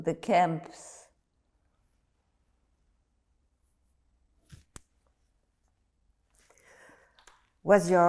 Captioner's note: pauses 6 seconds